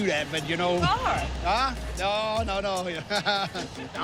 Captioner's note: laughs